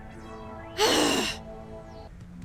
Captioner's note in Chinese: 叹息